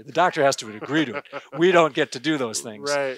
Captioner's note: gentle laughter